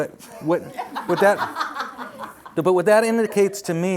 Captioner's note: audience laughs